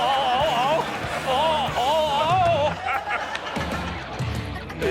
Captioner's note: all laughing